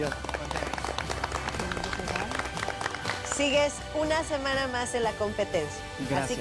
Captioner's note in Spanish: aplausos